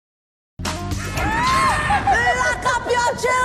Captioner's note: witchy laugh